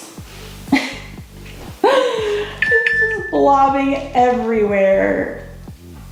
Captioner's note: laughs